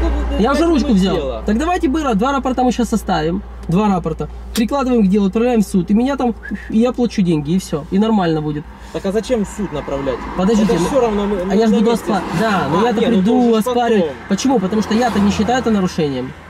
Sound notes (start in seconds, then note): 6.4 whistling